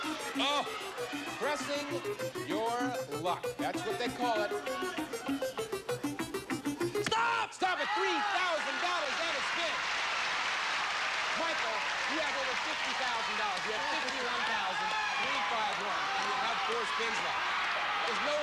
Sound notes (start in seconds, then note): 9.0 cheers and applause